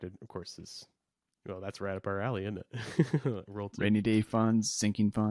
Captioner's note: laughs